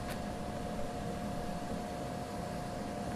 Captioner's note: none